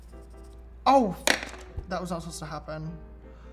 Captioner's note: drops pencil